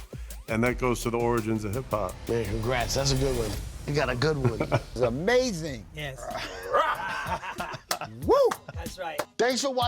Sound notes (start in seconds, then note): 4.4 laughing